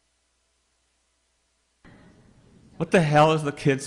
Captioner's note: silence